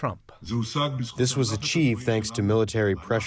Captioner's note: through translator